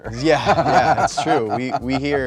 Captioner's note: man laughing